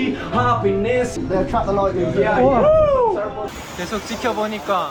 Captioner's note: rain starts pouring